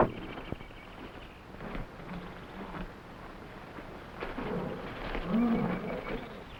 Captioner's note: animals chattering; gorillas groaning